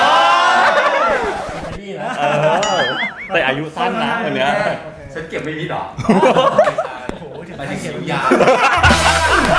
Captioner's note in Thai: ปรบมือ